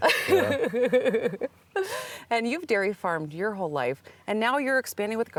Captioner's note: laughing